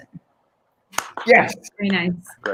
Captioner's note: claps